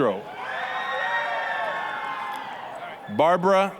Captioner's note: applause, cheering